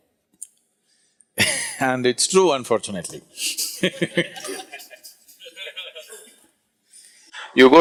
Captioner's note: laughter